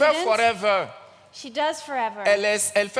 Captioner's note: continues in French